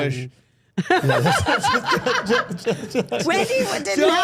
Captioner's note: everyone laughing